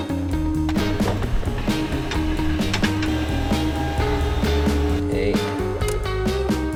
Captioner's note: upbeat music; machine whirring; upbeat music